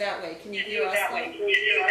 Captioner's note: echo occurs again